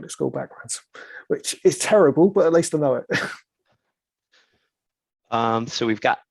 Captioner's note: chuckles